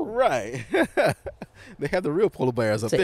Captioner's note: laughs